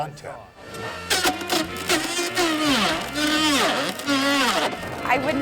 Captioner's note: blender whizzing